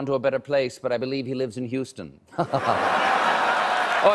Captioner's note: cheers and applause